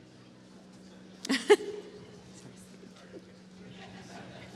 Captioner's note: laughs